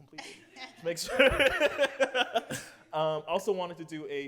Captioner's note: laughter